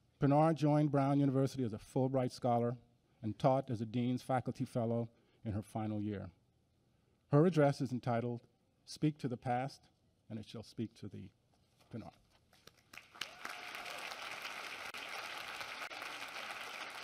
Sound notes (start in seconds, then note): 12.6 applause